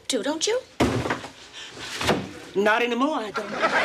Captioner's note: crashing